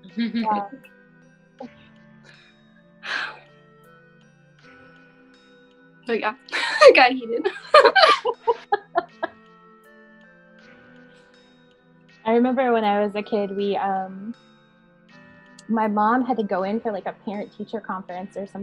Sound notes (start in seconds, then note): 7.4 laughing